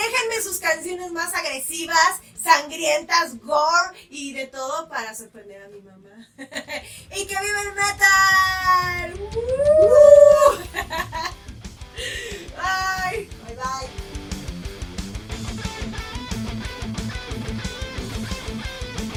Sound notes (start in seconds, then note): 6.3 creepy laugh